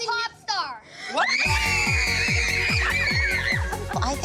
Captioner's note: excited screaming